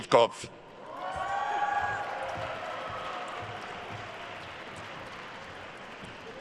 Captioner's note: attendees cheering and applauding